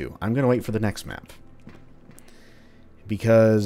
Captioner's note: none